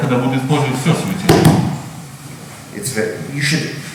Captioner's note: speaking in a foreign language